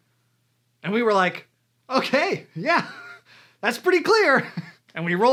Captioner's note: laughing